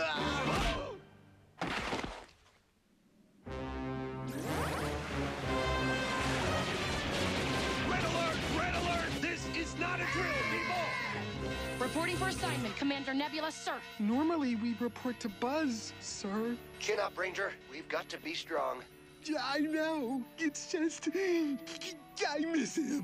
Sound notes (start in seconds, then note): 10.0 sirens